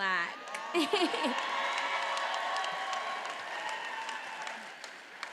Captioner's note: attendees applauding